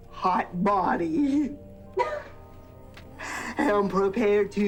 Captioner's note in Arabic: تضحك